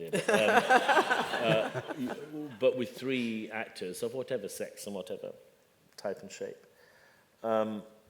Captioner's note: laughter